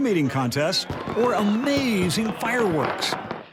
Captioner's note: explosions